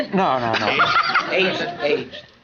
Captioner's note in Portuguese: gargalhando